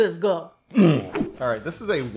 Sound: grunting

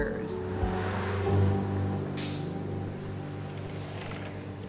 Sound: traffic whirring

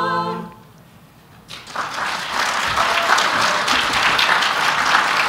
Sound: applause

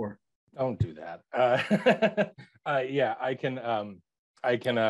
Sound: chuckles

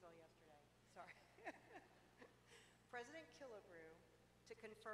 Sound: laughter

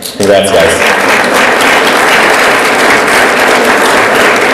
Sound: audience applauds

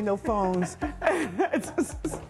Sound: laughter

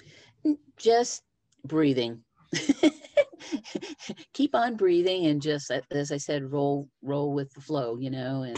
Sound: laughter

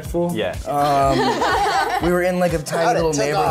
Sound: others laugh

